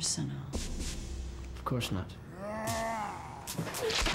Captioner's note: snarling